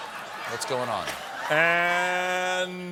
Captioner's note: laughter